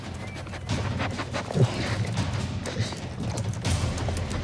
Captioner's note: sniffing